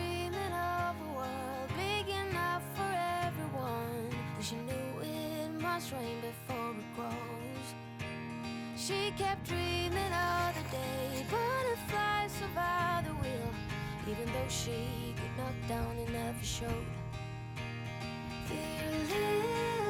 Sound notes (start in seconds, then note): 12.1 breathing heavily